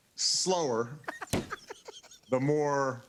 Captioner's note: laughs